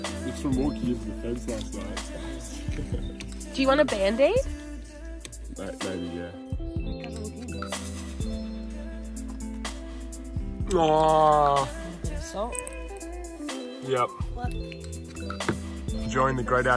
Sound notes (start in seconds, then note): 10.4 groans